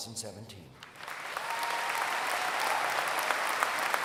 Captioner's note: applause